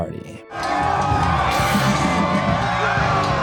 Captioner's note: crowd cheering